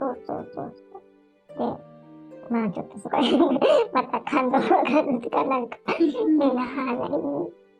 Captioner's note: tears